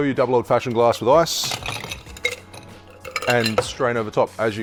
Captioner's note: glass tinkles